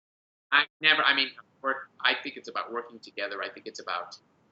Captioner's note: chuckles